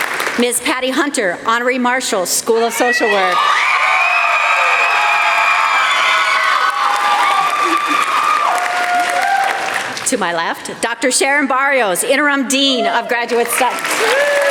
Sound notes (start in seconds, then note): 3.9 applause; 13.4 applause